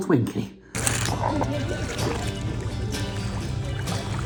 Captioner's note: water splashing